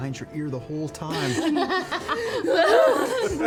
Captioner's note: laughter